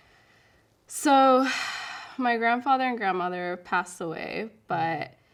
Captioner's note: sighs